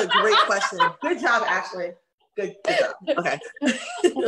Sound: laughs

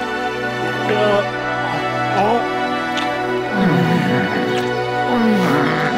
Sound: moaning

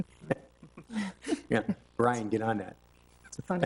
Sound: trustees chuckle

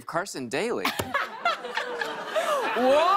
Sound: laughter

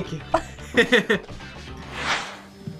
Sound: both laugh

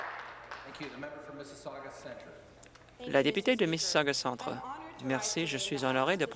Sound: some Applause

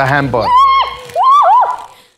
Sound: screams

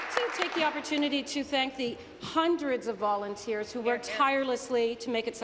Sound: applause

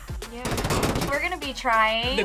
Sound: explosions booming

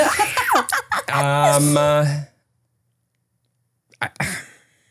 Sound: laughing

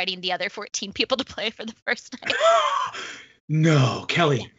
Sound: laughs

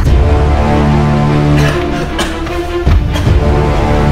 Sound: coughing

